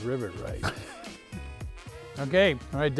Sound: laughter

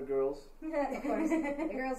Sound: all laughing

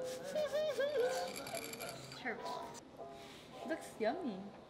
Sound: giggling

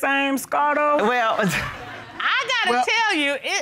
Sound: audience laughing; chuckles

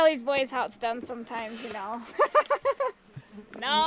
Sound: laughs

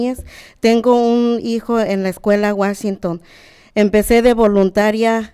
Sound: speaking Spanish

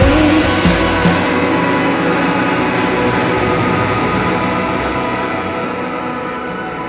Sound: laboured breathing

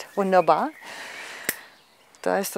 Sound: snapping

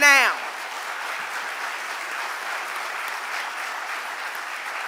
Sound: audience applauding

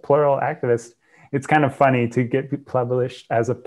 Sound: breath

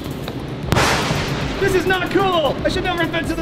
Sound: thunderclap

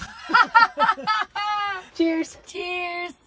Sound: laughing

